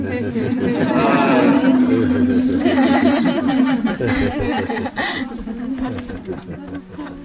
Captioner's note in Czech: smích